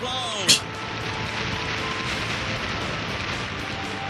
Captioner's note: scoffs